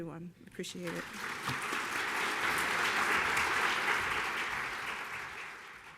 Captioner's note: clapping